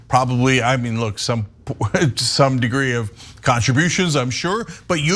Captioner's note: laugh